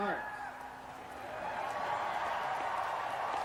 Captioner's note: cheering